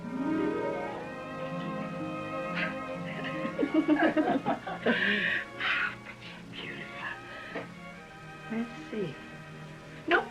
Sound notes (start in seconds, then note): 0.1 classical music; 2.4 giggles, laughter